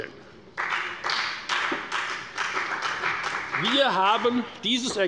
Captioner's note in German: Beifall bei der FDP